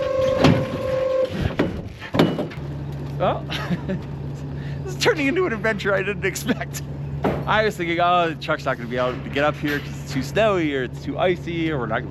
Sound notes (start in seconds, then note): 3.2 laughs